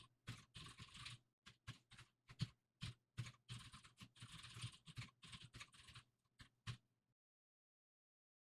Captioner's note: typing sounds